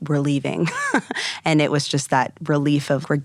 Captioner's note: laughing